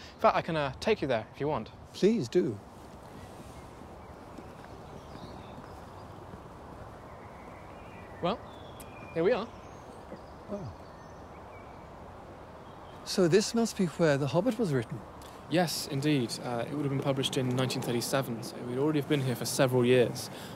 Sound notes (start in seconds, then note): 3.3 birds chirping